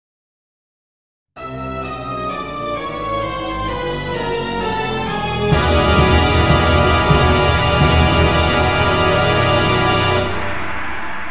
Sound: sound of gong

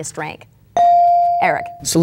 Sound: bell dinging

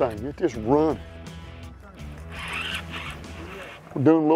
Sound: reel spinning

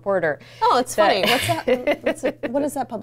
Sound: laughs

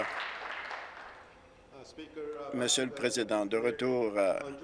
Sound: applause

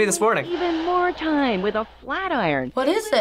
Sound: voice-over

